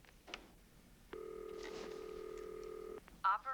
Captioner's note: line ringing